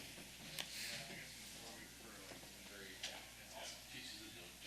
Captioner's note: participants chatting indistinctly